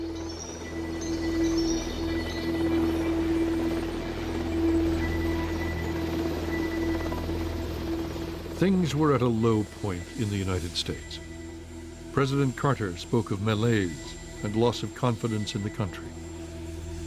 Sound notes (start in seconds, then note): 1.4 helicopter whirring